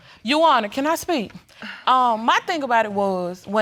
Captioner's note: sighs